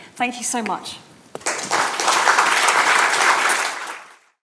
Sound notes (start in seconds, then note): 1.3 audience applauding